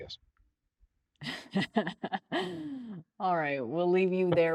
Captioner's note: laughing